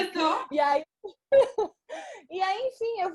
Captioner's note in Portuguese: risos